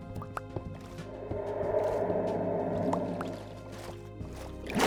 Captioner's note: water splashing